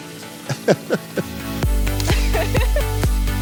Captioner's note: laughing; both laughing